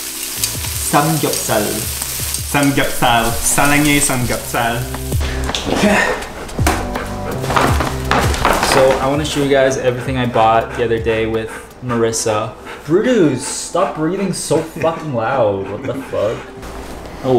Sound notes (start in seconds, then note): 3.7 speaking in foreign language; 5.8 sighing; 15.2 laughing